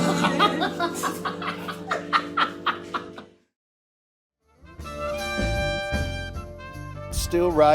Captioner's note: laughs